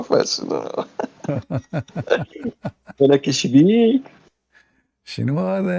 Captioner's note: Ketawa